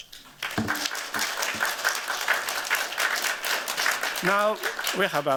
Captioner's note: applause